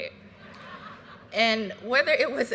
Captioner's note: graduates laughing